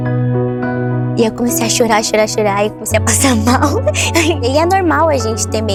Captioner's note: laughs